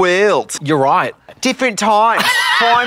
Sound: Australian accent

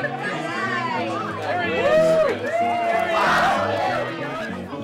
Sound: cheers

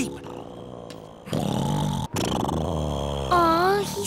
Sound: snoring

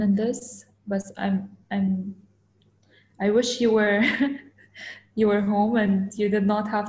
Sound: chuckles

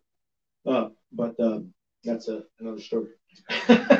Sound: laughs

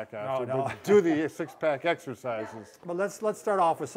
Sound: laughter

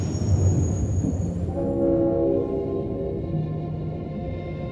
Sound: train rumbles; train horn

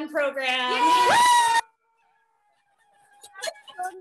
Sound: cheering

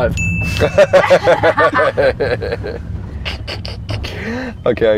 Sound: people laughing

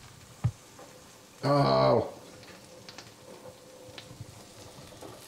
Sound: groans

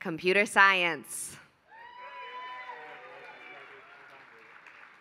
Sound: applause

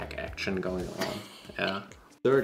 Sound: laughs

